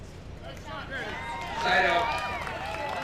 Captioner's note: crowd cheers